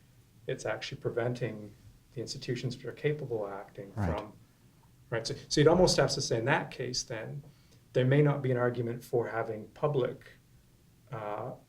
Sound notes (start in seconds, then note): 5.3 voiceover